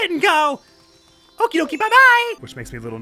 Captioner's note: as Mario